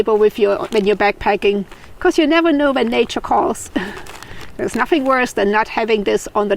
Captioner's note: laughs